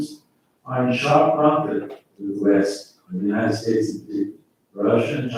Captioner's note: faintly speaking